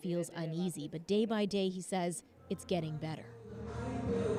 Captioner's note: speaking Foreign Language